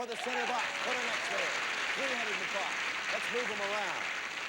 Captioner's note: audience applauding